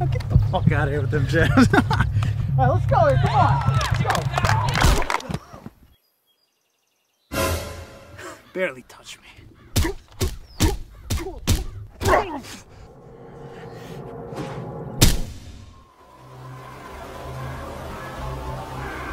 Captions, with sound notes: Man, get out of here with those jabs. (laughing) Lets go. Come on. (crowd cheering) Barely touched me. (jab sounds) (suspenseful music) (body thuds)